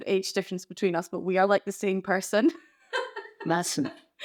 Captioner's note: laughs